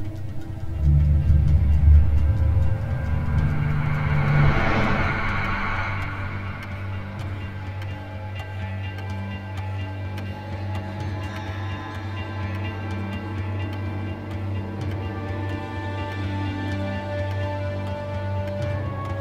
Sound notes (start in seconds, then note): 1.1 dramatic music; 9.1 clock ticking; 16.2 dramatic music